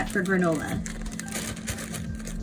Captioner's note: plastic bag rustling